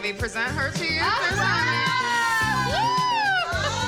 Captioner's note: cheering